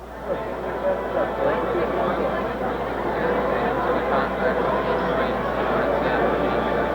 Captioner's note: indistinct crowd noise